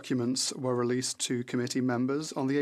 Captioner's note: speaking French